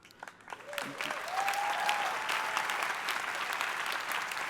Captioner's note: audience cheering